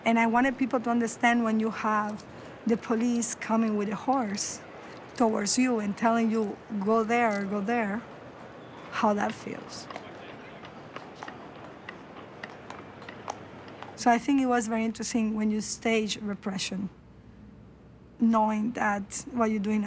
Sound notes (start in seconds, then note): 8.8 horse hooves clopping